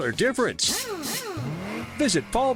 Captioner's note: whirring